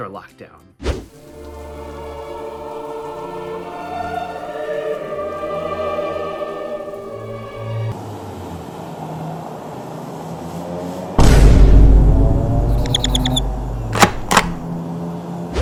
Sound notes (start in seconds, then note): 1.0 solemn opera music, with the sound of falling rain; 8.0 outdoor sounds